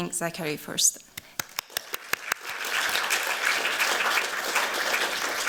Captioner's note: applause